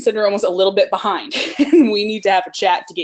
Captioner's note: laughs